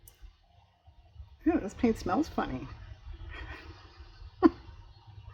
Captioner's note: laughs